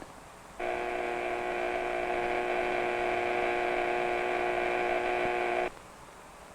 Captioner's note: buzzer sounds